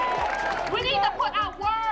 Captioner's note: cheering